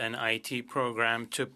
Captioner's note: speaking French